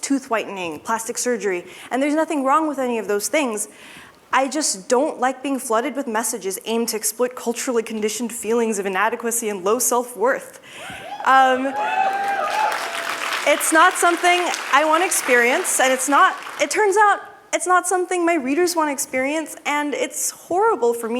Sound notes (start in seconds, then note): 11.6 applause